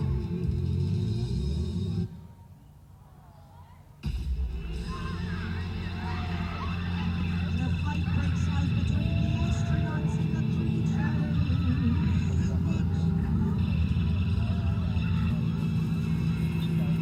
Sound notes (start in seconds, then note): 2.2 music cuts out; 5.7 sounds of space violence, disaster, catastrophe, etc